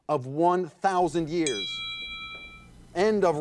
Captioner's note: bell ringing